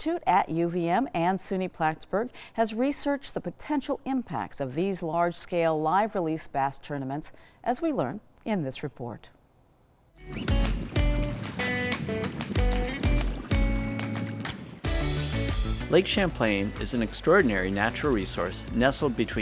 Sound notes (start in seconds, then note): 10.2 upbeat music; 10.3 water laps